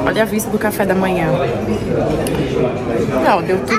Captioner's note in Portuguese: ambiência de restaurante